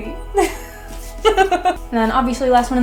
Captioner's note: laughs